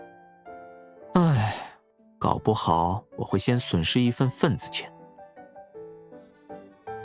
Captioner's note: sigh